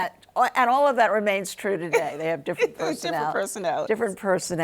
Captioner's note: hlaughs